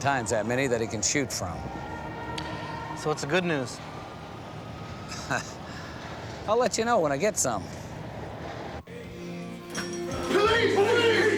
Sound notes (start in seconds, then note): 5.1 chuckles